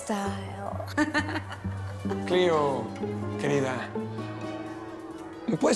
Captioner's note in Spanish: Risas